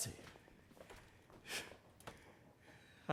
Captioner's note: exhales sharply